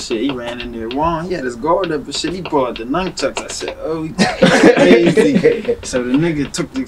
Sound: laughing

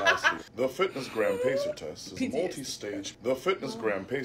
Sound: laughs; whimpers

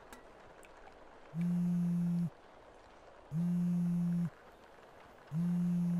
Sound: phone buzzes

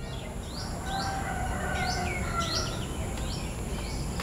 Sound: birds chirping

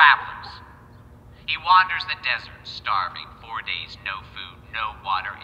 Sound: none

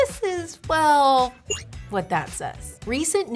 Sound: machine beeping

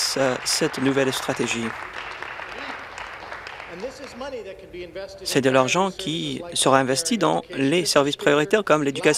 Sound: applause

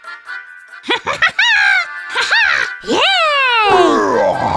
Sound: celebratory gibberish

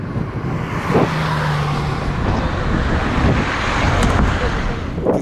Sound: traffic driving

